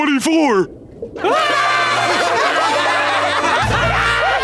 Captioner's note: laughing